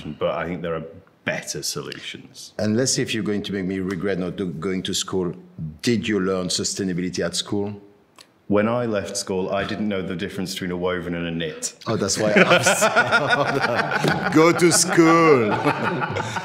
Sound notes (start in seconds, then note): 12.0 men laughing